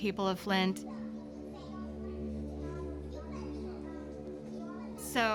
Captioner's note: children talking indistinctly